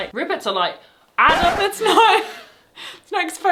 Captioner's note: record scratches